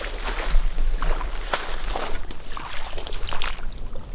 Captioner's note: water flowing